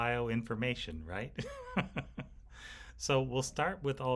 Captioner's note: instructor laughing